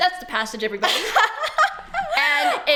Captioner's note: laughs in fear